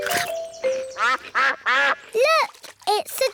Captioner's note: quacking